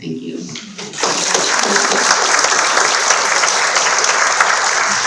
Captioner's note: audience clapping